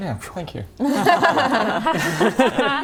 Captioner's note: validated laugh